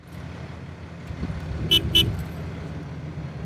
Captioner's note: car honks